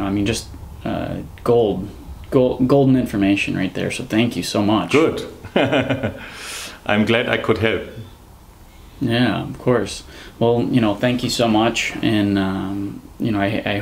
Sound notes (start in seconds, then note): 5.2 laughs